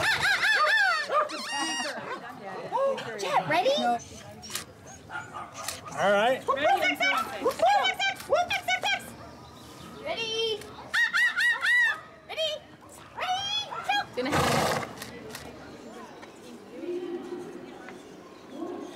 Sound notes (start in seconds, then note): 0.2 imitates animal sounds; 7.2 team making random noises; 11.1 imitates animal sounds; 14.2 horse blowing; 15.1 camera shutter clicking; 15.4 birds chirping